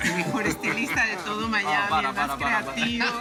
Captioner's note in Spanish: Risas